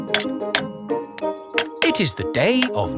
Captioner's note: clanking